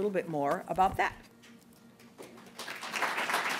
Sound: applause

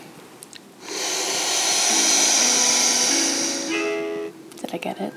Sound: inhales deeply

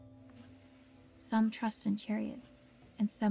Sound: treadmill humming

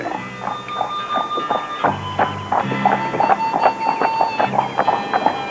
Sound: hooves clopping

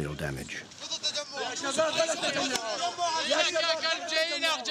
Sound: Arabic spoken audio

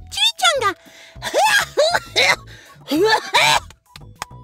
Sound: enters violent coughing fit

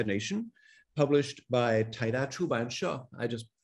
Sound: speaking in Mandarin

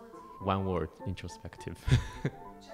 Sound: laughs

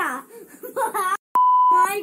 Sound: giggles

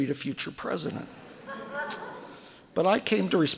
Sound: audience laughing

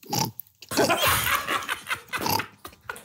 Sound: oinking; laughing

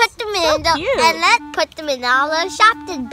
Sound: voiceover

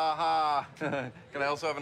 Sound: chuckles

